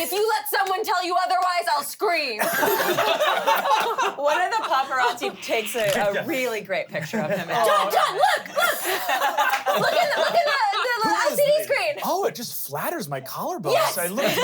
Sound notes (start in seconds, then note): 2.4 everyone laughs